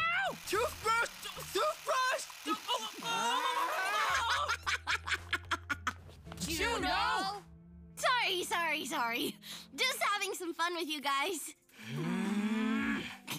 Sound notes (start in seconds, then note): 3.0 all screaming; 4.0 laughing; 11.8 all groaning